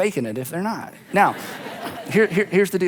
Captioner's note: audience laughs